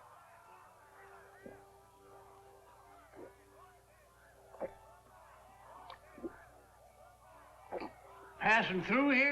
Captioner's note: gulping sounds